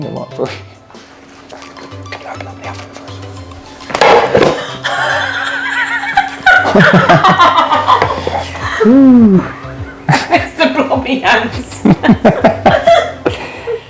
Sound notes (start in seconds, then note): 4.9 laughter